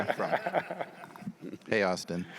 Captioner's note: attendees laughing